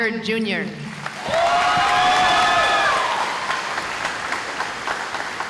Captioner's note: cheering